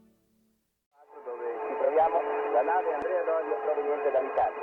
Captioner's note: speaking over radio